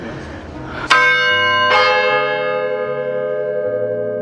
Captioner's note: bells clanging